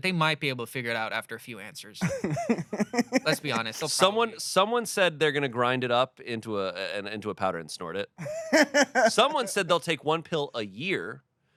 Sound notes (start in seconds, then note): 2.0 laughs; 8.2 laughs